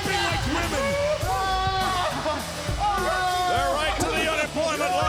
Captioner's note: sob